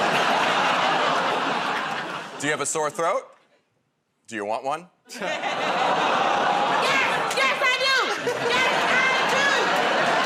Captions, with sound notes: [ Laughter ] -"Do you have a sore throat? Do you want one?" [ Audience "Oh"s ] -Yes, yes, I do! Yes, I do!